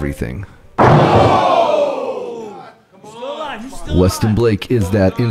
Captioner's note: audience cheering